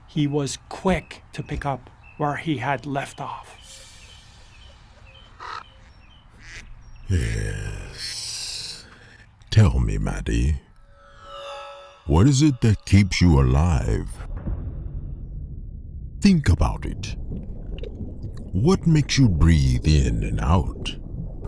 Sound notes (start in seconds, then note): 3.8 cymbals; 5.1 crow cawing; 14.6 drums